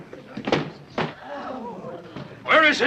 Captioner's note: patrons gasping